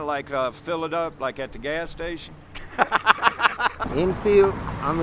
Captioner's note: laughter